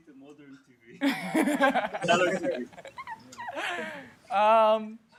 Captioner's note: laughter